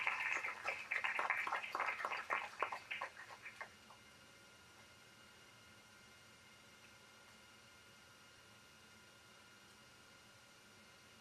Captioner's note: applause